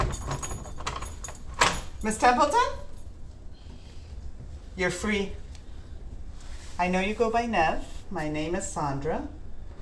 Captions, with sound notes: (door rattles) (keys jangle) (door handle clacks) - Ms. Templeton? (Nev breathes) You're free. I know you go by Nev. My name is Sandra.